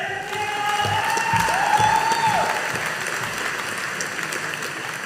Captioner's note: audience applauding